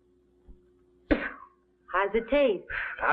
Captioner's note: spits